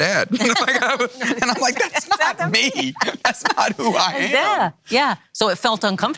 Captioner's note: laughs